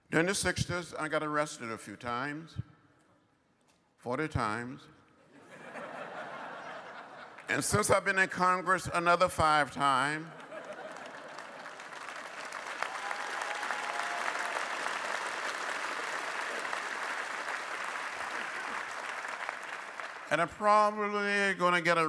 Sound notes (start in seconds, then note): 5.3 laughter; 15.0 applause